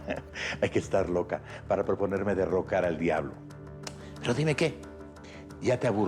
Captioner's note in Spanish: riendo